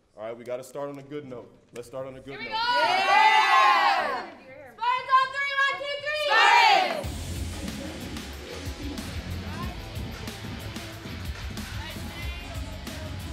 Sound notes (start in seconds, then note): 2.3 girls cheer; 7.0 upbeat rock music